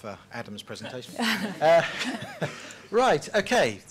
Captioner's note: laughter